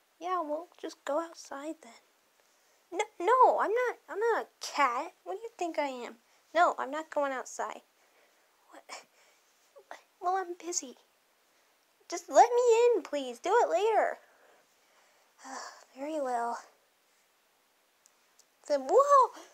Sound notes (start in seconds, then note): 15.4 sigh